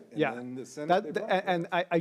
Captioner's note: speaks faintly